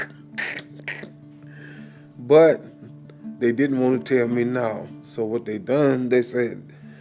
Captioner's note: laughs